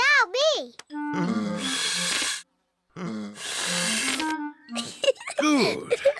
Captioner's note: blowing deeply; giggles